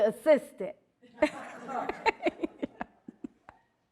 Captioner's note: all laughing